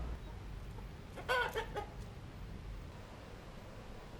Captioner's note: rooster and bird sounds